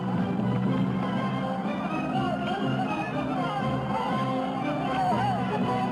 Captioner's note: army shouting